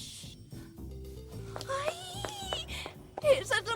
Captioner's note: gasps